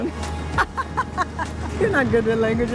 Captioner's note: laughs